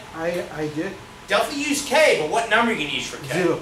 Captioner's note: speaks softly; speaks softly